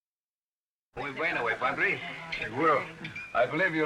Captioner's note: speaking spanish